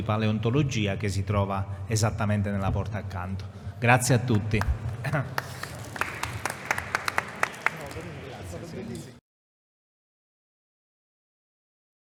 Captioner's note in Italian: Applauso